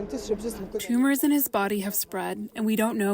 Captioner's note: through translator